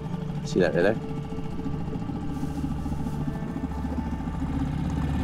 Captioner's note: boat motor hums